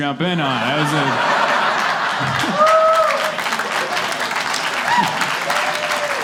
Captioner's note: cheering